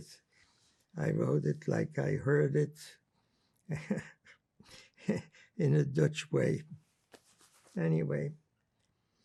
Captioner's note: laughing